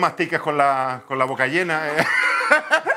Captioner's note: laughs